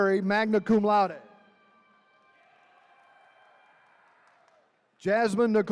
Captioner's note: attendees cheering